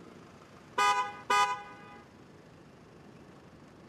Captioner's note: car honking